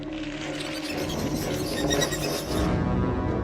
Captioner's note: sound of micro organisms intensifies